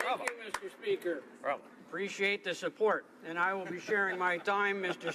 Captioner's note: applause